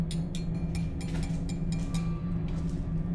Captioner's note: tapping on glass; footsteps